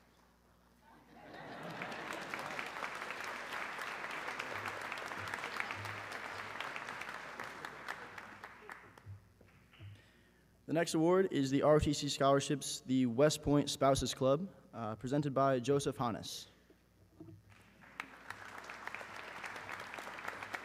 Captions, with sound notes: (audience laughs) (audience clapping) - The next award is the ROTC scholarships the West Point Spouses' Club, presented by Joseph Hanus. (audience clapping)